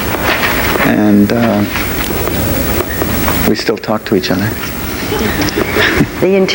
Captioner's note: audience laughs softly